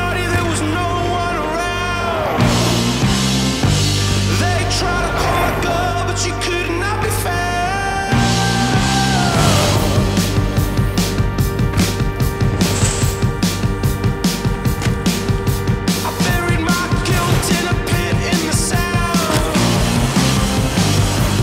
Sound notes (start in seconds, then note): 12.7 bike tires whirring